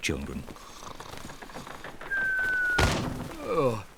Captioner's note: snores